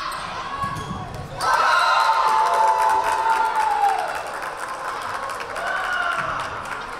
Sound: whistle blaring; crowd cheering

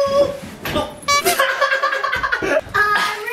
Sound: group laughs

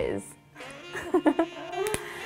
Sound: laughs

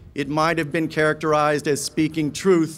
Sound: none

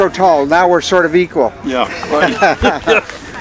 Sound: laughing

